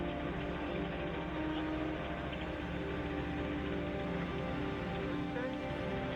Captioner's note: engine continues rumbling